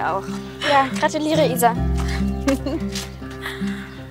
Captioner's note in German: lacht